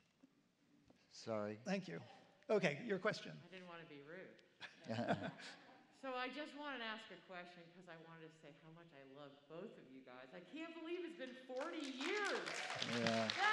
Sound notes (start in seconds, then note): 4.6 laughter; 11.2 applause